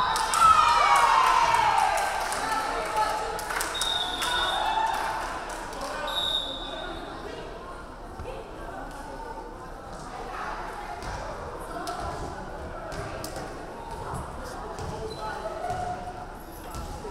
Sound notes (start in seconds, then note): 0.0 crowd cheering; 0.1 referee whistling; 7.3 crowd chattering